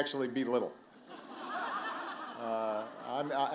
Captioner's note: laughter